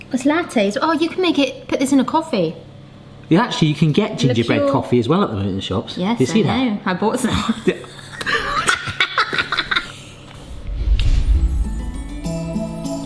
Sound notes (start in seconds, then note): 7.2 both laughing; 11.0 festive music